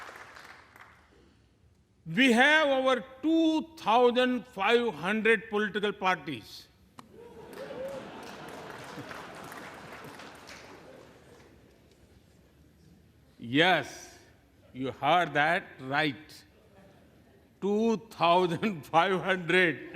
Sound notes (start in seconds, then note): 3.2 applause